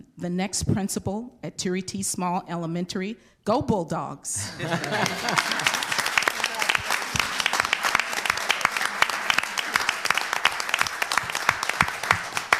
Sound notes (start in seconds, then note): 4.4 laughs; 4.5 crowd applauds